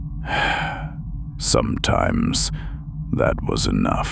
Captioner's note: sighs